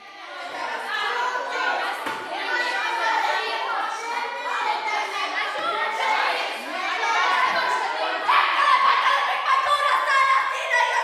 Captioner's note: loudly arguing, shouting nonsense, speaking gibberish